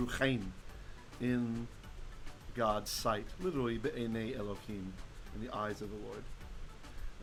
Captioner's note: Hebrew